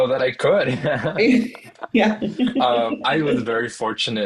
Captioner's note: both laugh